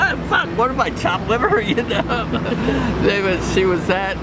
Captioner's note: laughing